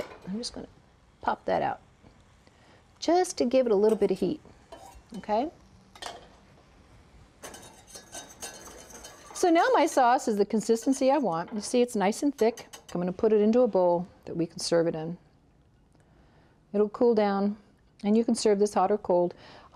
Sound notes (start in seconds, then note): 7.4 light scraping; 12.9 tapping